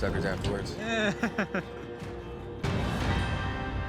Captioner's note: laughter